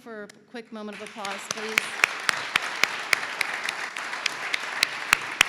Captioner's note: audience clapping